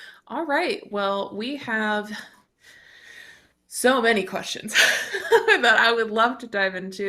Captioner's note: chuckles